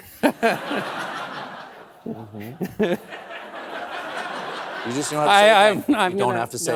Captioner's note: laughter